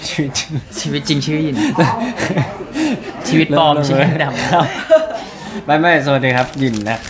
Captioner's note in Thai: เสียงหัวเราะ